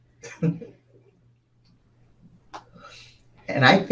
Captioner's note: chuckles